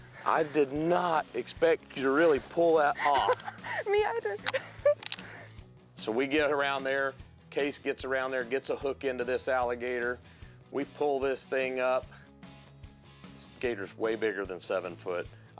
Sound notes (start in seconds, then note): 2.9 laughing